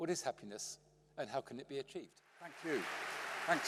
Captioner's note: applause